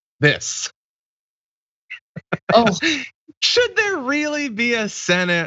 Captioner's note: laugh